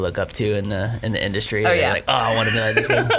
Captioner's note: laughs